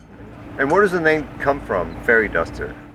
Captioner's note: off screen voice